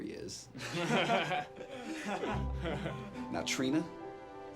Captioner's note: boys laugh